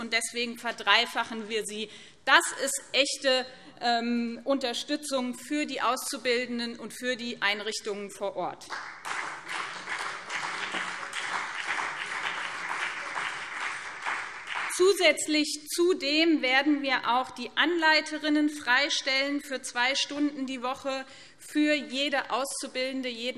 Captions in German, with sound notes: Deswegen verdreifachen wir sie. Das ist eine echte Unterstützung für die Auszubildenden und für die Einrichtungen vor Ort. [Beifall BÜNDNIS 90/DIE GRÜNEN und CDU] Darüber hinaus werden wir die Anleiterinnen freistellen für zwei Stunden pro Woche für jede Auszubildende bzw.